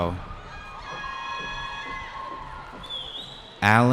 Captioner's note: cheering